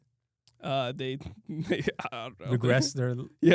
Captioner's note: laughs